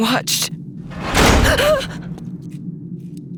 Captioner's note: door slams; Sarah gasps; eerie music